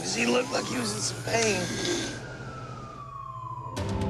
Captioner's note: sirens